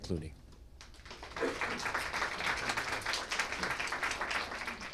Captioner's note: applause